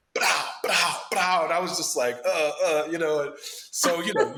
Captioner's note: grunts